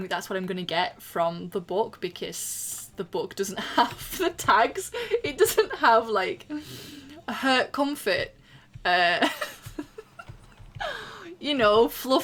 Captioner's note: laughing